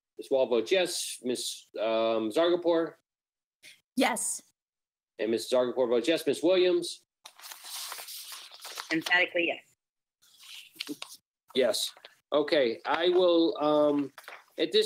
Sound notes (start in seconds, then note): 7.2 paper shuffling